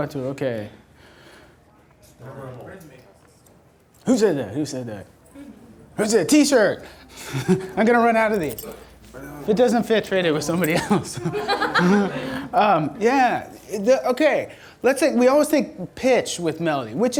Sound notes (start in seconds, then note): 2.6 voiceover; 6.9 laughs; 10.6 audience laughter